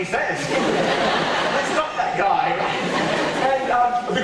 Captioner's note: audience laughter